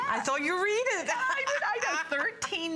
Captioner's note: laughter